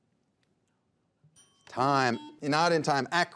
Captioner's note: bell dings